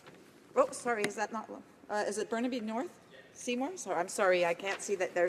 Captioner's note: speaking French